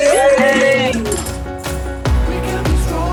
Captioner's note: people cheering